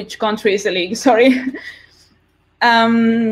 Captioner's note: laughs